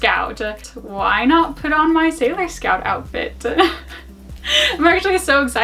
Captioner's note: laughs